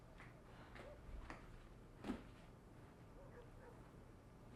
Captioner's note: dog barking